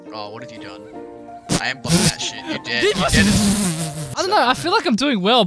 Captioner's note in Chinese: 噗！